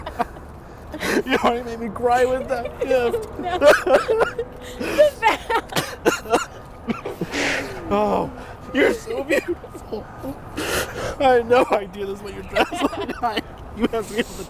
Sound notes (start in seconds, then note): 3.7 crying and laughing